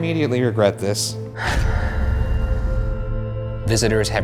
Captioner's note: dramatic whooshing